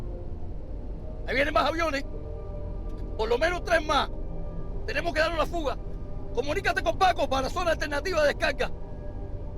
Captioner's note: speaking Spanish